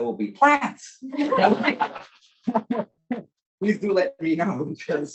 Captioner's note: everybody laughs